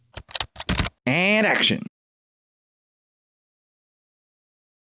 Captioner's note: typing